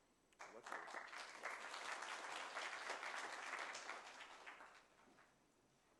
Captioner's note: applause